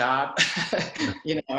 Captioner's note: laughs